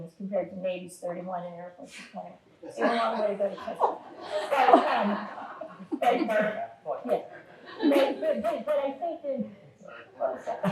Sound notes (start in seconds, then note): 3.6 audience laughing